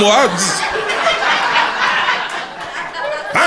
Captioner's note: crowd laughter